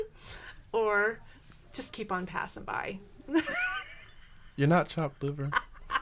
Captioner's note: laughing